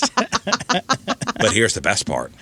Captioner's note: laughing